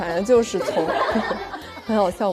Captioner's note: a burst of laughters